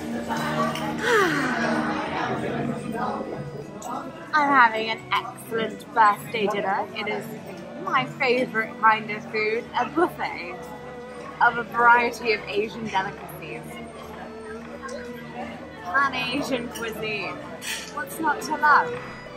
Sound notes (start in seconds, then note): 1.0 sighs